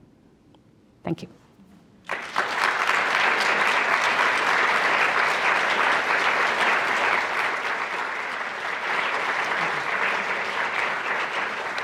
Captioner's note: applause